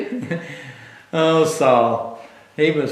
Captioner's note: laughs